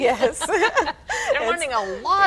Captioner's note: laughs